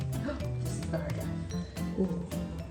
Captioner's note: gasps